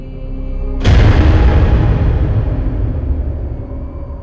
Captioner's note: blasting